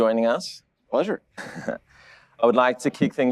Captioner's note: laughs